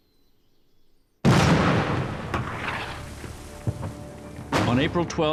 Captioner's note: cannon fire